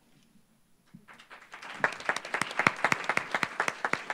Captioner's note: applause